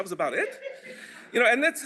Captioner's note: laughter